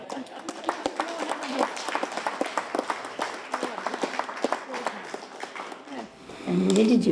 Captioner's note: applause